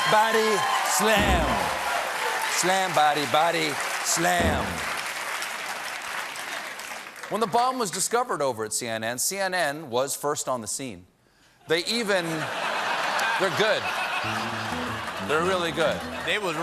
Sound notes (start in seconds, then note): 8.4 applause; 12.2 laughter